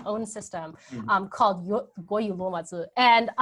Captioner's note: speaking in a foreign language